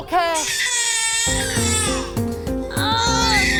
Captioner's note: baby crying